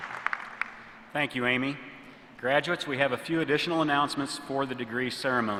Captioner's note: applause